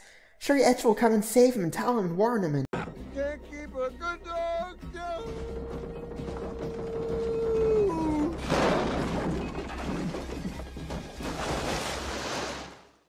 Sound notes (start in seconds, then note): 5.0 hooooooowl~!